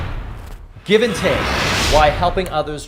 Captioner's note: air whooshing